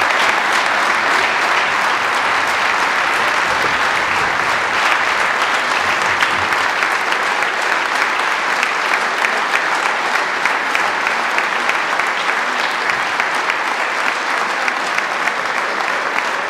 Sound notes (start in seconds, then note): 1.5 applause